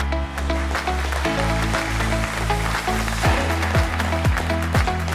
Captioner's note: audience applauding